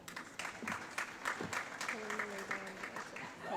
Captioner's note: applause